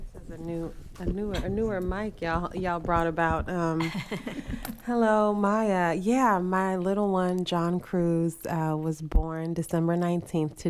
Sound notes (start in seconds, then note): 3.8 board members chuckling